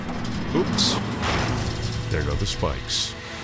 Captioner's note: spiked panels clanking